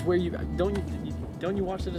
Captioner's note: none